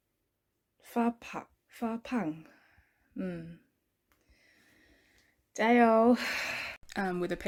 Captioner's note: sigh